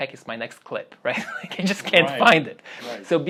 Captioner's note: laughs